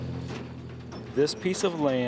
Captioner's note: truck driving past